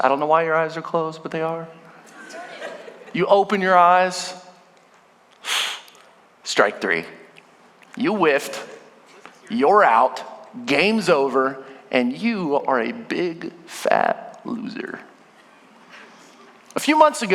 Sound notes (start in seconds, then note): 2.0 congregation laughing; 5.4 hisses; 15.3 congregation laughing